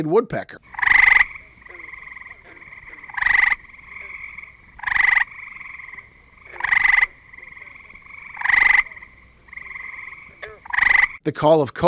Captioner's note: gray treefrog call